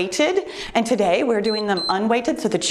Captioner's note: timer beeps